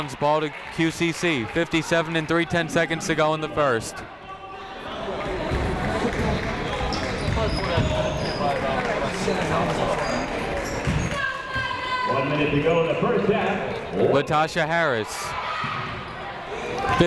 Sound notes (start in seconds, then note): 8.0 crowd applauding; 11.1 people shouting in the crowd